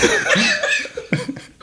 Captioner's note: laughing